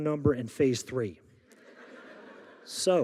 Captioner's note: audience laughing